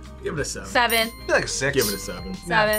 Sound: bell chimes

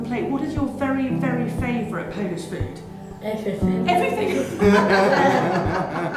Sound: laughter

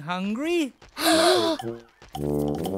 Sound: gasping

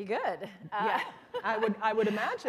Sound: chuckle

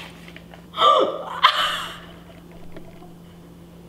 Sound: laughing

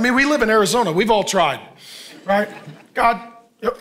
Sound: congregation laughing

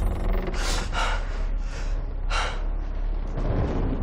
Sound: heavy breathing

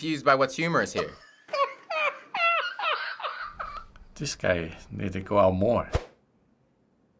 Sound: cameraman laughing

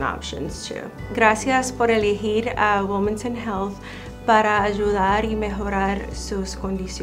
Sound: Spanish

